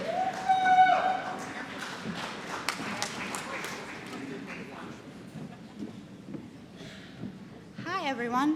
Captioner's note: applause